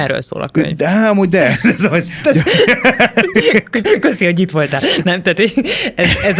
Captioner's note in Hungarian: nevetés